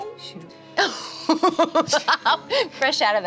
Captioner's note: laughs